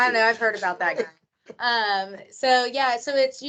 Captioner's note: laughing